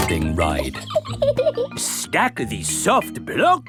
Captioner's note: laughs